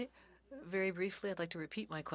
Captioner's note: speaking French